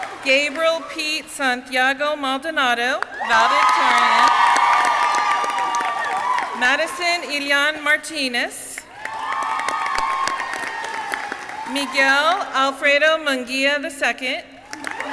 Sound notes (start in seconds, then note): 0.0 audience cheering; 8.9 audience cheering